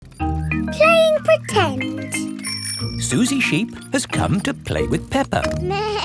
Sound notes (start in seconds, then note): 2.1 bicycle bell rings